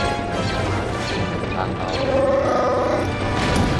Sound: roars

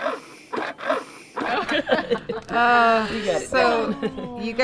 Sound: laughter

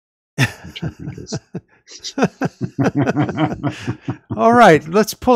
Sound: laughter

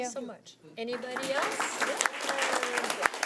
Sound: audience clapping

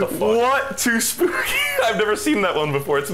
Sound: wheeze

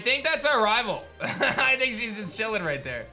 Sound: laughs

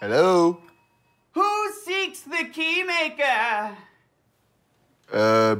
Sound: in silly voice

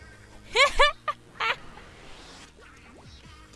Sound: laughs

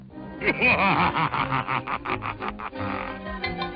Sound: evil laugh

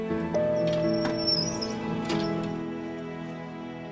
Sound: beeping

